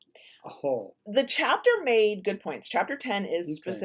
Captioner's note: guffaws